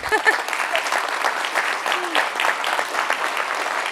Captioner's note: audience clapping